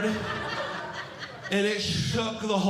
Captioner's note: audience Laughing